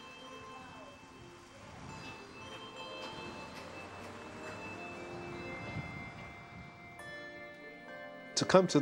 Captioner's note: bells chiming